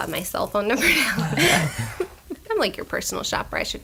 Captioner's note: laughter